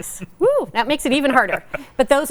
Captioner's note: laughing